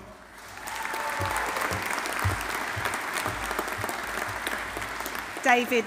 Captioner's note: audience applauding; audience cheering